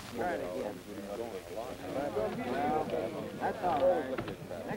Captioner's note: low taIking